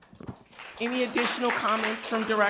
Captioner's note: crowd clapping